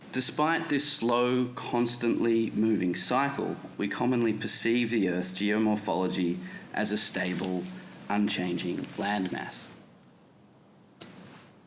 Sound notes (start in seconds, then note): none